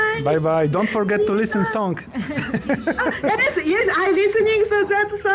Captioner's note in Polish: śmiech